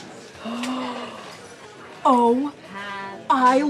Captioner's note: gasps